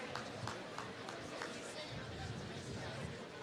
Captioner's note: applause